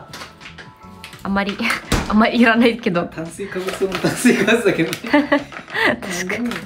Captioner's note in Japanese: 笑い